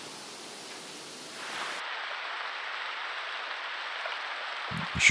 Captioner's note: rain